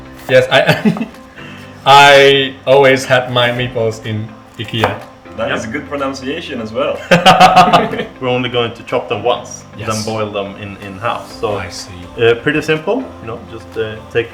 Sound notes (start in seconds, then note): 7.0 laugh